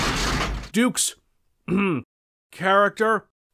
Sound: ahem

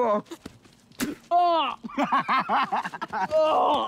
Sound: Miklos cries out; spits; laughs; Miklos groans

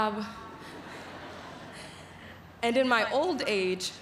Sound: laughter

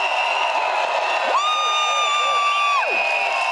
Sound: crowd cheers

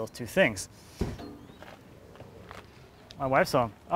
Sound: car door slams

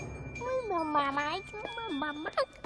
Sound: chattering

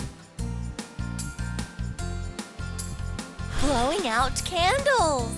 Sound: someone blowing air sound

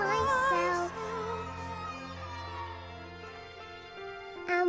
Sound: cheering

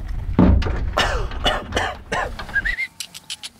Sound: coughing

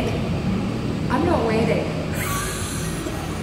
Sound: laughs

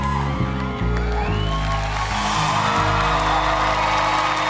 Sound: crowd cheering

